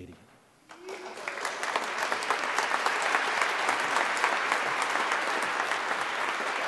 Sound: applause

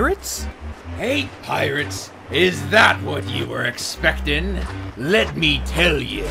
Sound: footsteps on sand

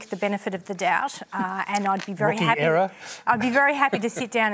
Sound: laughs

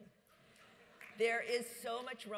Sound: audience laughs

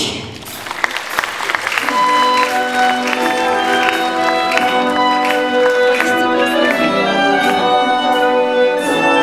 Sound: applause

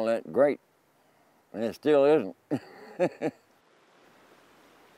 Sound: laughing

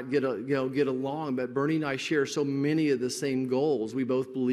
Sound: none

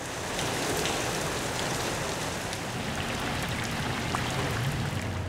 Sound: heavy rain

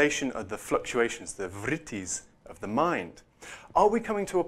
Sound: non-english

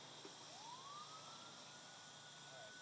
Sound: siren blaring

